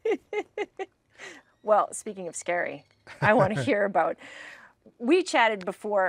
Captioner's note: both laughing